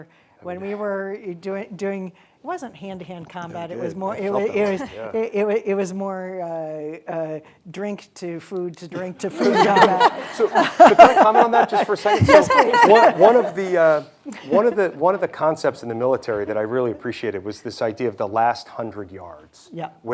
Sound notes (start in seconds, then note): 9.3 everyone laughing